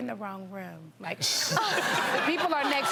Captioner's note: audience laughs